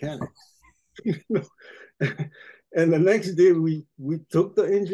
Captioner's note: laughing